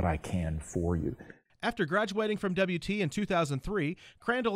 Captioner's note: voiceover